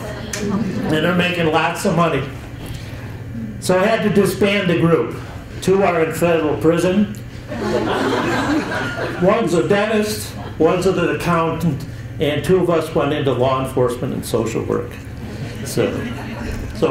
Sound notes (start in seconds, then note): 7.5 chuckles